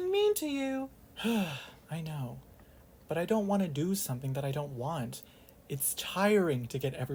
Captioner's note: sigh